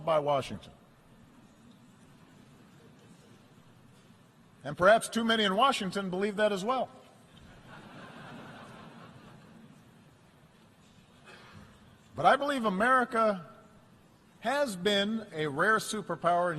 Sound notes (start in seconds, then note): 9.5 laughter